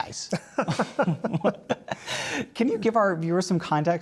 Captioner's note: laugh